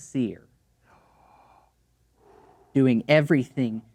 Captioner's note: gasps quietly